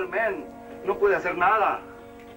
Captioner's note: Spanish spoken audio